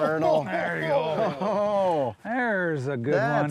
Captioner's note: water splashing